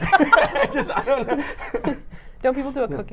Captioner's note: both laughing